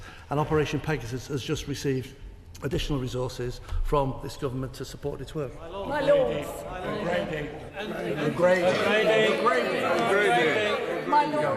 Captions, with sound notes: And Operation Pegasus has just received additional resources from this government to support its work. (Members chatter)